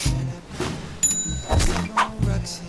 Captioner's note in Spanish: Caja registradora